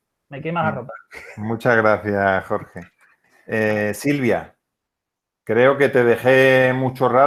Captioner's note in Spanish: risas